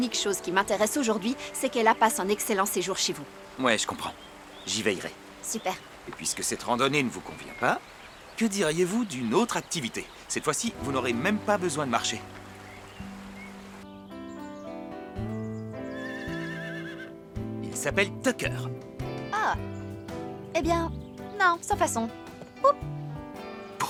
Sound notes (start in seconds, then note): 14.3 birds chirping; 15.8 horse neighing